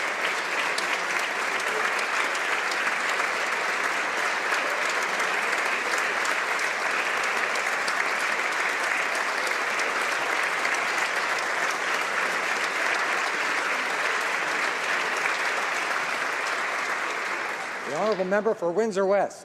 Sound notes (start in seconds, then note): 3.4 applause